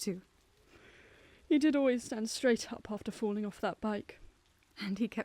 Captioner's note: sighs